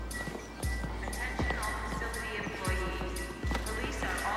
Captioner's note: PA System